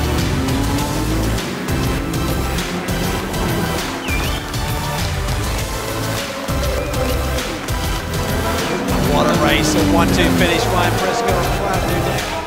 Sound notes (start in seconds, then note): 5.8 crowd clapping and cheering